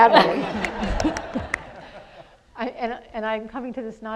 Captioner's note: audience laughs